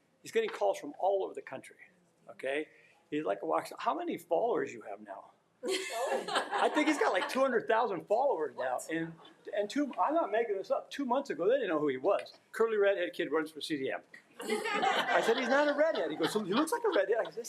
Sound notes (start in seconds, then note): 5.7 everyone laughing; 14.4 attendees laughing